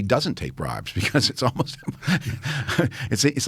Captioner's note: laughs